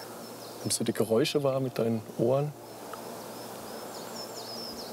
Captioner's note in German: none